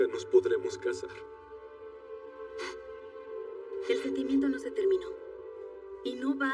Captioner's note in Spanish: Solloza